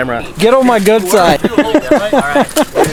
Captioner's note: laughs